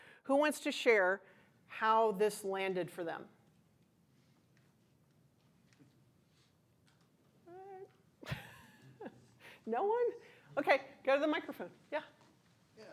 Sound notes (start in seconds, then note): 8.2 chuckles